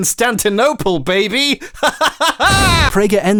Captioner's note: laughing; booming